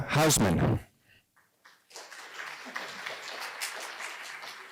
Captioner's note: applause